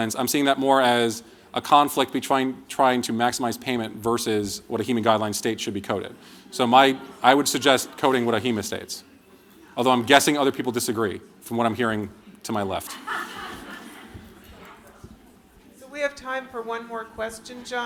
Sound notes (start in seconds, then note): 9.0 audience chatter; 12.8 laughter